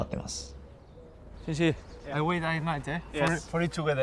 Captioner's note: in English